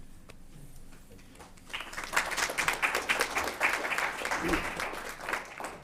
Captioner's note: applause